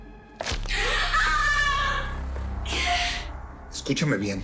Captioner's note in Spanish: Grito